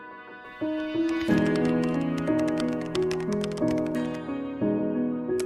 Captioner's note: computer keys clicking